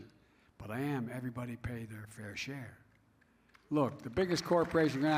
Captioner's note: applause